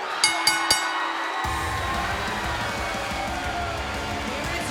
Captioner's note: bell ringing; crowd cheering